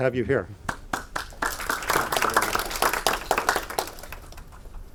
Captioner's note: audience applauding